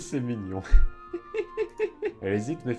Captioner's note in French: Rires